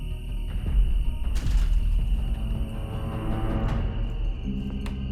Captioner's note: door rattling shut